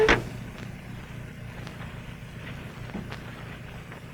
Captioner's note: car door closes